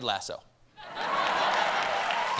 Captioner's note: laughter; applause